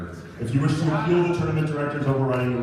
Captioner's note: laughter